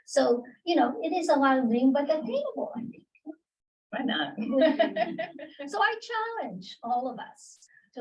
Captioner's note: laughter